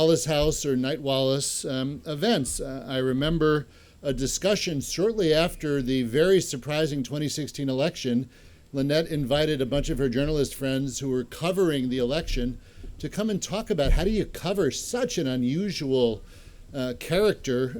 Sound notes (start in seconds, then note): none